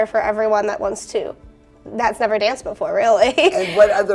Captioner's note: chuckles